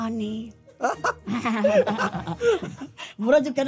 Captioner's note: both chuckles